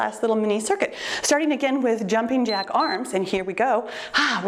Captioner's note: timer beeps